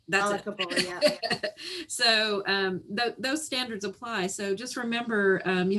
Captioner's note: laughs